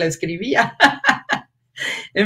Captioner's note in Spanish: ríe